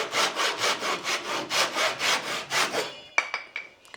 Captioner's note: saw buzzing